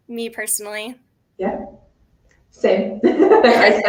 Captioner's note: laughter